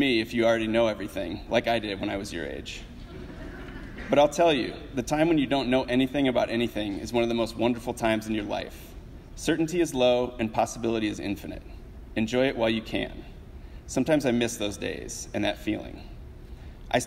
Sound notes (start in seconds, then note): 2.9 audience laughs